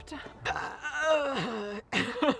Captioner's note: burping; laughing